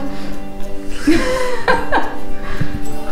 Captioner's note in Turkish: Gülüşmeler